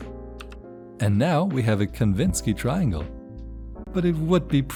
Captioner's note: click and key press sound